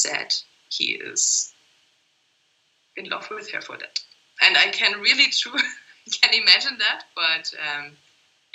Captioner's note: laugh